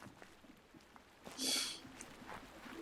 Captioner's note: scoffs